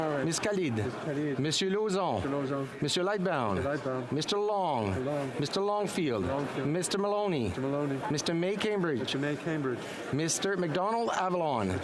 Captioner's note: calling of recorded vote